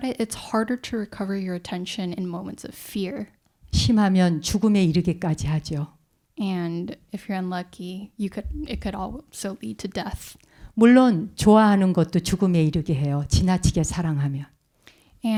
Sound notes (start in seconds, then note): 4.4 speaking in Korean; 11.4 speaking in Korean